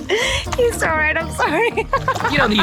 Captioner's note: laughing